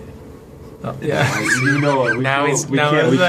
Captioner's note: laughter